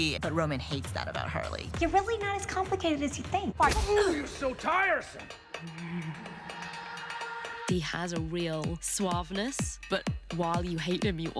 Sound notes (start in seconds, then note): 5.6 chuckles